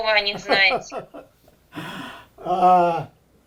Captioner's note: laughing